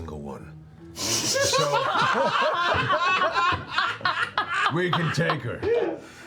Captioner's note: laughter